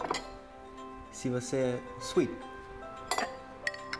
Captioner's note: mixes up English and German